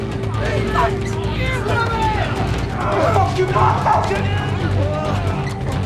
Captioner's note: residents shouting